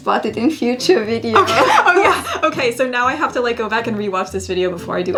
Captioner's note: laughs